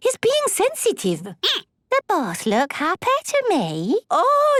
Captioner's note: squeaking